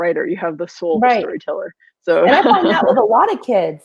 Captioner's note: laughs